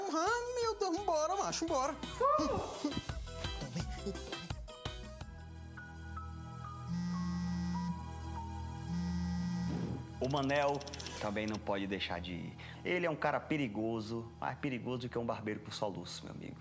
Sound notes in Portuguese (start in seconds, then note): 2.0 grunhido de esforço; 3.4 cantarolando; 6.8 celular vibrando